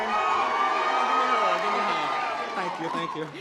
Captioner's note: audience applause